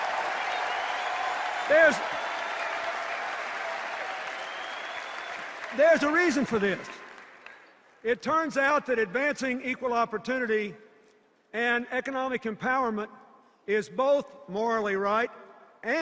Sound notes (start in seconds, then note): 0.0 sustained cheers and applause; 0.0 applause and cheers